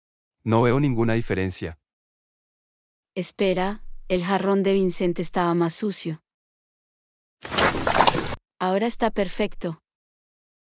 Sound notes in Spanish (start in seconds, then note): 7.5 FX - Pig Eat